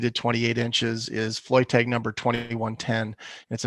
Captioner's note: audio glitch